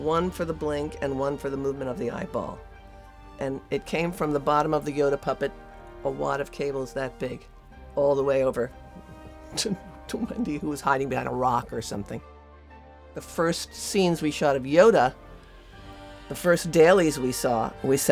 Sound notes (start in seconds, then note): 8.8 laughs